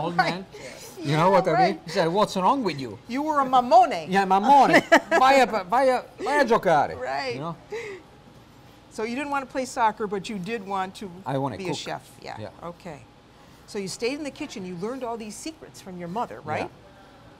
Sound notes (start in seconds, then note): 0.3 laughter; 4.7 laughter; 6.4 italian